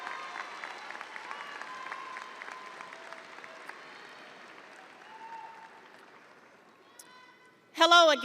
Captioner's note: audience cheering; audience applauding